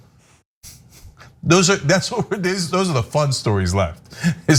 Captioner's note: laugh